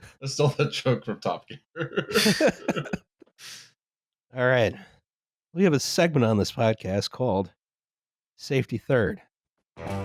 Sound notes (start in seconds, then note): 1.8 laughter; 9.8 ♫ twangy guitar riff ♫